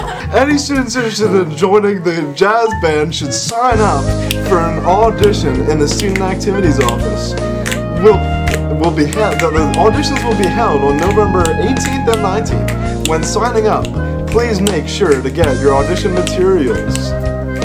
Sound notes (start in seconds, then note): 0.0 laughter; 5.8 snapping; 9.3 stammering